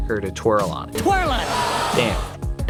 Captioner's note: audience gasp